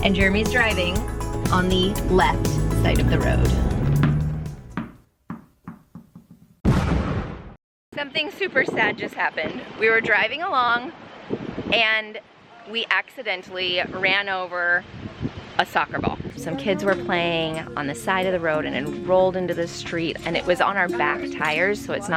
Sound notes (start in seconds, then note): 4.6 ball taps; 6.6 explosion crashes; 16.4 kids chattering; 20.0 kids chattering